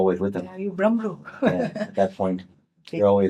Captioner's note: laughs